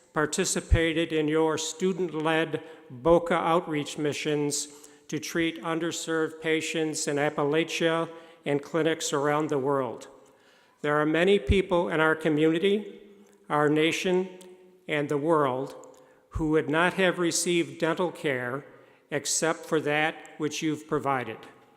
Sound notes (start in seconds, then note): none